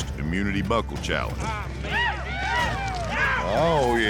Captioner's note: hoof beats, cheering